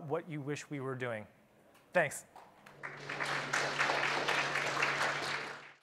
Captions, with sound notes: what you wish we were doing. Thanks. (applauding)